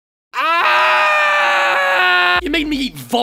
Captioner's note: two screams